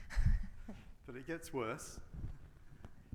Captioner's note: laughs